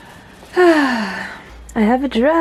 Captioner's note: bemused sigh